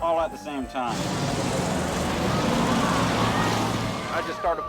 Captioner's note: engines revving; crowd cheering